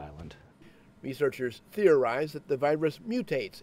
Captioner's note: voiceover